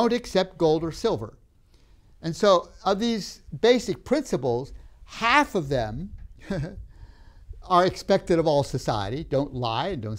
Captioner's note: laughs